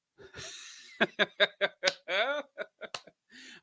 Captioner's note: laughs